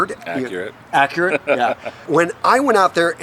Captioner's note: laughs